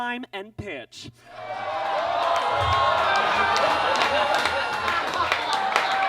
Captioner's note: audience laughs and claps